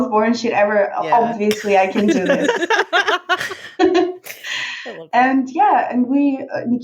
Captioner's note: laughing